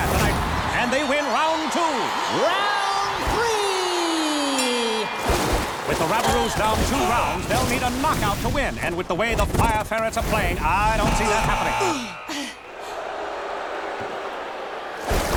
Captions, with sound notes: and they win round two. Round three! [dinging] With the Rabaroos down two rounds they'll need a knockout to win, and with the way the Fire Ferrets are playing I don't see that happening. [groaning] [audience chattering]